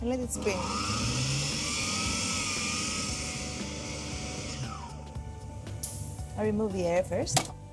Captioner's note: motor running